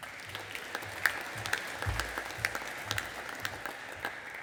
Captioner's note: audience applauding